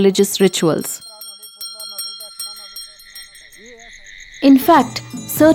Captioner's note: bell jingling